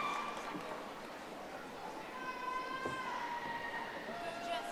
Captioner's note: audience applauding